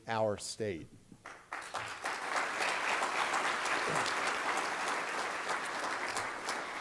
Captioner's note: applause